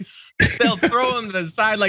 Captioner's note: laugh